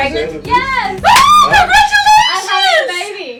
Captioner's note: claps